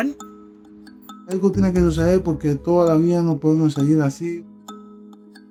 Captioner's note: speaker speaking in Spanish